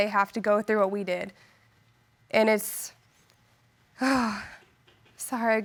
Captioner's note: sighs